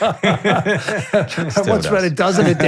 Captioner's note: both laughing